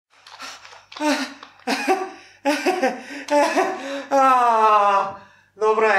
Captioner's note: laughs uncomfortably